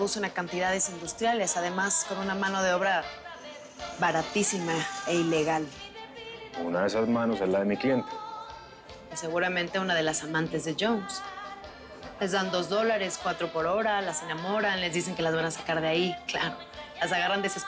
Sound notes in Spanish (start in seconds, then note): none